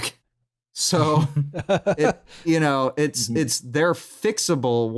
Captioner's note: chuckles